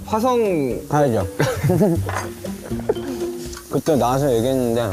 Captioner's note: haha